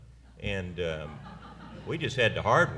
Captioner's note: laughter